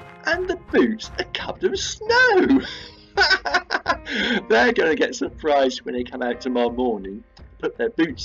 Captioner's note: laughs